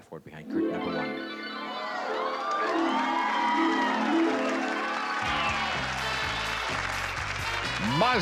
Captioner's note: cheering